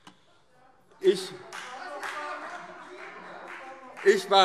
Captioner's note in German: Vereinzelter Beifall - Zurufe